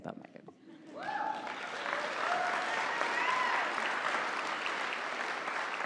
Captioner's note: audience applauding